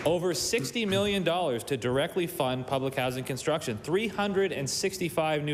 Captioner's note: applause